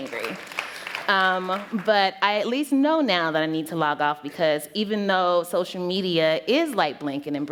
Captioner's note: applause